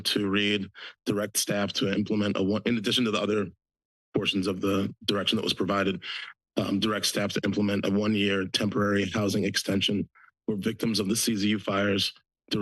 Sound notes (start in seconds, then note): none